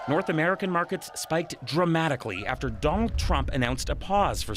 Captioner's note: cheers and Applause